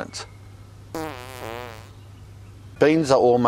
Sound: farting sound

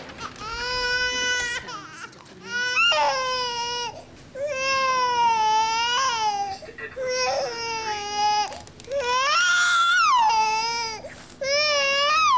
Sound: baby Crying Loudly

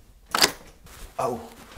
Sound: door lock creaking

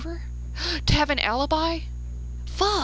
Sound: gasp

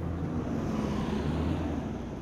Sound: bus rumbles

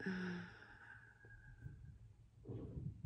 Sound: sighs

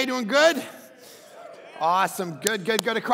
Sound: crowd cheering

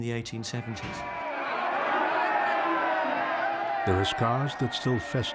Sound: people shouting in foreign language

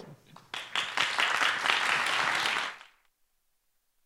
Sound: applause

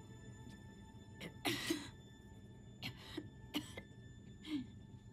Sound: Catra coughs

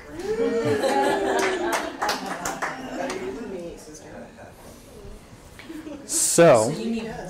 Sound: audience laughter and applause

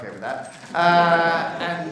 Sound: laughter

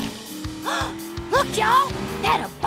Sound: gasping

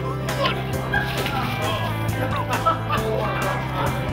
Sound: laughter

